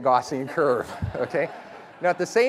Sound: laughter

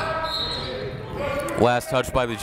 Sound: whistle

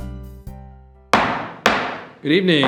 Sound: gavel thumping

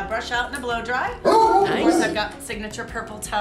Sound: dog barking

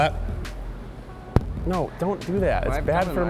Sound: tap

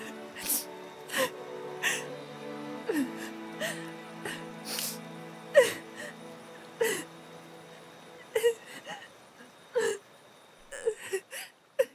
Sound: sobbing

